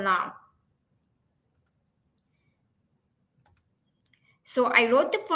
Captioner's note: silence